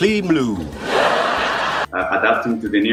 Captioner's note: laughter